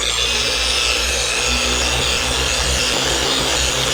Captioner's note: machine whirring